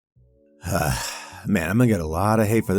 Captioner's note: sigh